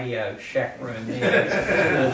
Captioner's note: laughter